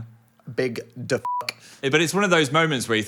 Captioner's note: beep